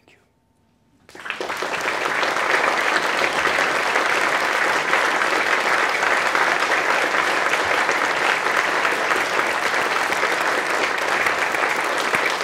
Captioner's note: applause